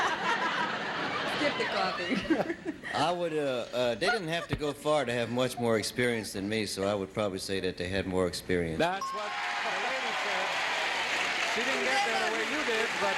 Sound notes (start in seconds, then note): 0.0 audience laughing; 9.1 audience applauding